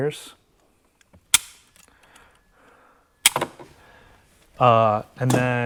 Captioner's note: cutters snapping